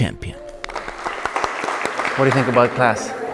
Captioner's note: people clapping